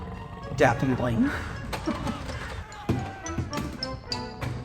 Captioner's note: Denson laughs